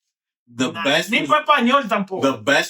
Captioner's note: speaking Foreign Language